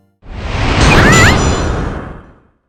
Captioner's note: Polly squawks